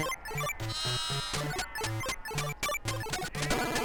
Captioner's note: sheep bleating